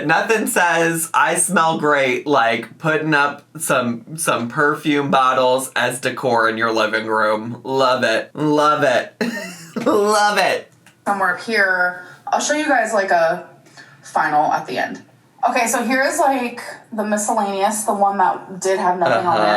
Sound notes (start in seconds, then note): 9.2 laughs